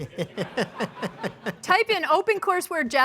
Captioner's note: laughter